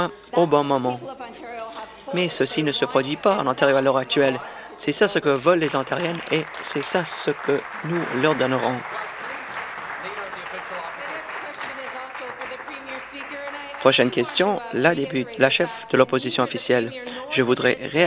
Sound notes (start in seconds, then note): 10.2 applause